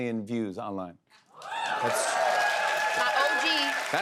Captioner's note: cheers and applause